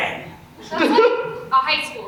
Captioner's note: audience laughs